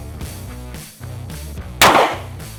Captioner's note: gunshot